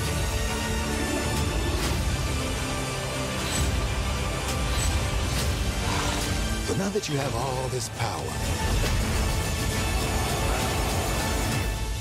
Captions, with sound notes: [TENSE MUSIC PLAYING] But now that you have all this power, [LOUD ROARING]